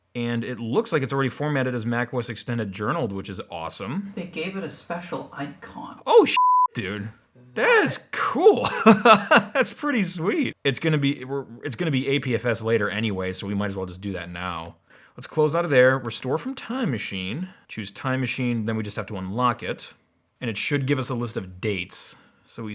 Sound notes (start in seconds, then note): 6.3 beep; 8.4 laughs